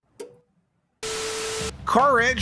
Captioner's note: TV static